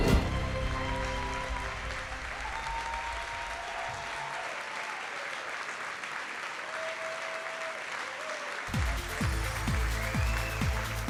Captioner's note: audience screaming and applauding